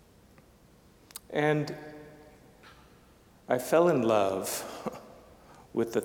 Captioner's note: chuckling